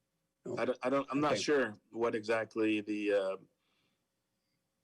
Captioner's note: speaks faintly